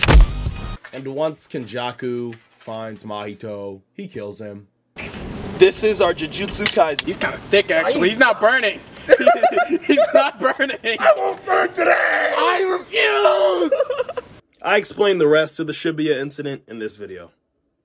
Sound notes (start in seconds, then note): 9.0 narrator laughs